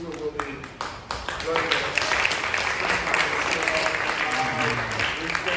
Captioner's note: applause